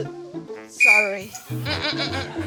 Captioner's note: blows whistle